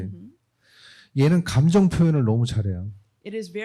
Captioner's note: speaking korean